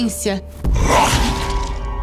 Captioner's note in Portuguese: rosnado